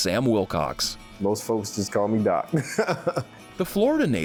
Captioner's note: laughs